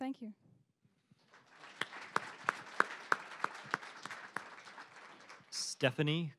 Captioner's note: applause